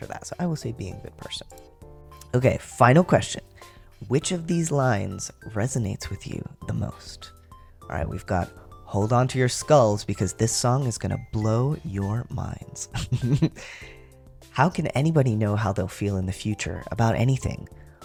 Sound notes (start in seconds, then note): 13.1 laugh